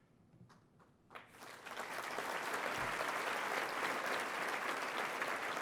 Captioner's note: audience applauding